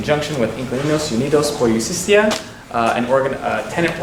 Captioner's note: foreign language